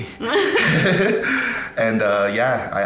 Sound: both laughing

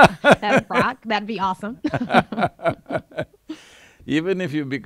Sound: both laugh

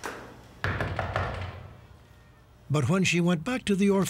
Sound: knocking

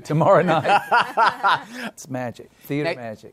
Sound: laughter

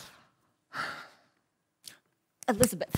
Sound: sighs

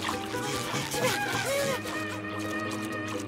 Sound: buzzing

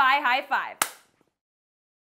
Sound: claps

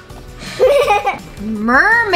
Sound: child laughing

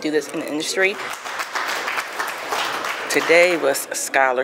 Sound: audience applauding

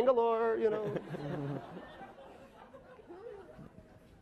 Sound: laughing

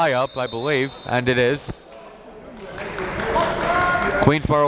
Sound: whistle blows; applauding

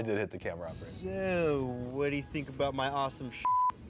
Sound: beep

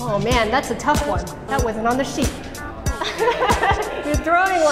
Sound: laughing

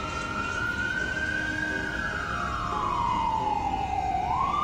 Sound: siren wailing

